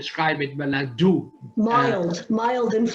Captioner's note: speaks in foreign language